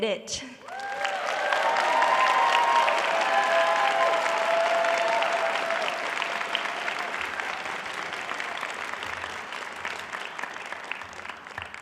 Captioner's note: cheering and applause